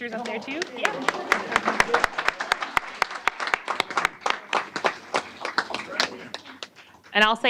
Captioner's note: applause